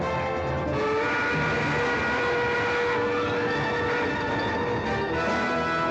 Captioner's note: dramatic music; train whistle blaring